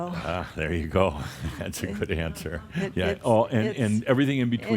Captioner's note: Adamus chuckles